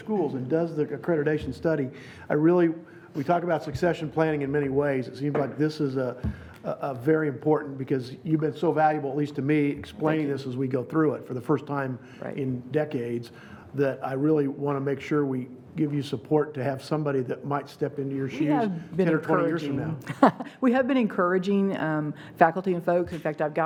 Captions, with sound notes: to other schools and does the accreditation study. We talk about succession planning in many ways, seems like this is very important, because you've been so valuable at least to me explaining this as we go through it for the first time in decades that I really wanna make sure we give you support to have somebody that might step into your shoes 10 or 20 years from now. (laughing) - We have been encouraging faculty and folk.